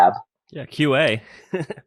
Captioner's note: laughs